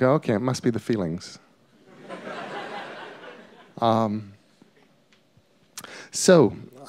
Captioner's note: laughter